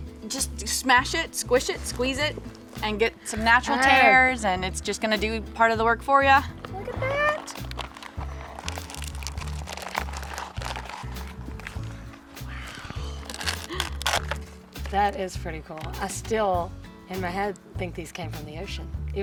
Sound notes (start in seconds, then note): 7.3 luffa skin crunching